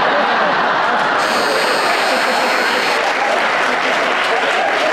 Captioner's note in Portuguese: campainha